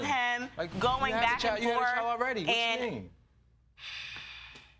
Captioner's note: sighs